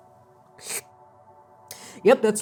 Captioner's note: slurping